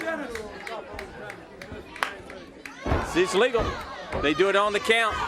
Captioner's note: crowd chatter